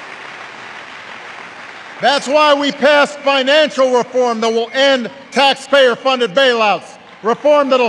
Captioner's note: applause